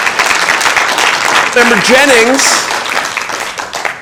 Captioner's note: applause